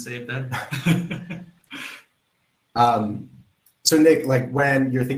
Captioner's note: both laugh